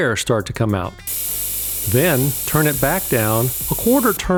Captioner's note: air hissing sound